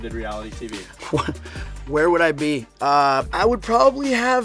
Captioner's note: laughs